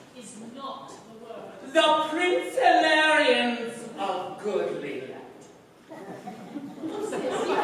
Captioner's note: laughter